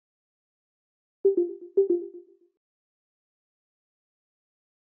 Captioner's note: computer chimes